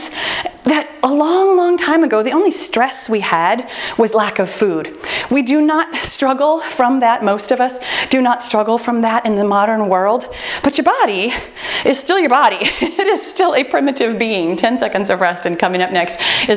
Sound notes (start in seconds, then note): 12.4 timer beeping; 12.6 laughs